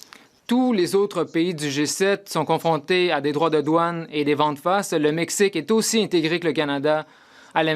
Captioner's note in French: voix de l'interprète